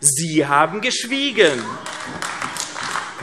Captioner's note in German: Beifall AfD